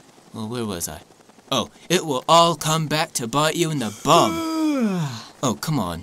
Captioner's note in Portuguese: Yawns